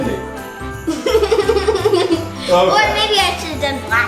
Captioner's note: giggles